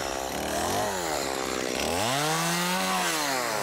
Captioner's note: motor revs up and purrs